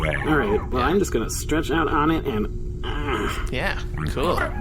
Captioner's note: various noises of understanding; noise of comfort